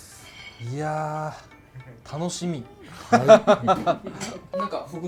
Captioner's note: laughs